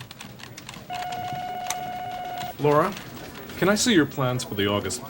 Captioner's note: device beeping